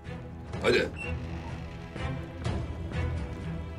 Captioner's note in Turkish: Kapı açılma sesi